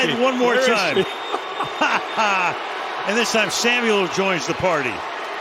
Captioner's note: laughter